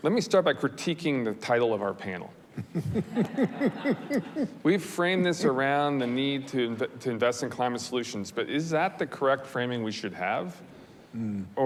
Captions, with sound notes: Let me start by critiquing the title of our panel. (panelist chuckles) (audience laughs) We frame this around the need to invest in climate solutions, but is that the correct framing we should have?